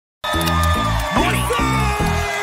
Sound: audience cheering

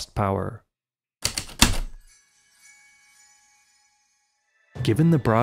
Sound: typewriter keystrokes, light chimes

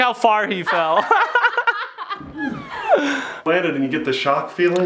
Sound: laughing

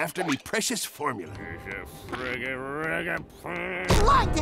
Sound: grumbling

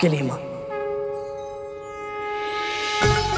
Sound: conch blows

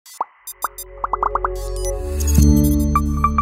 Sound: logo chiming

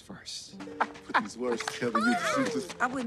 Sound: chuckling

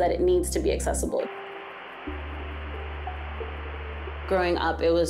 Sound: static noise

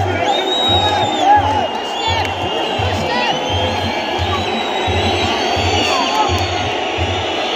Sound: clap

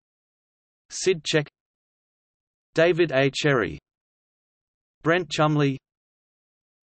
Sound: in German

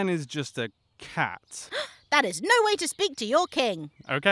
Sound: gasp

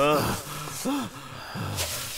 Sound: none

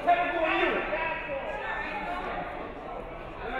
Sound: none

